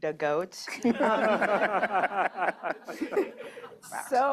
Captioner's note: laughs